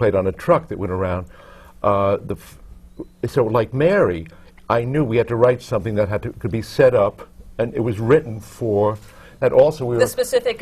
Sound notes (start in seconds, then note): none